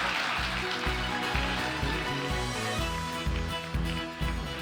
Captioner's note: audience applauding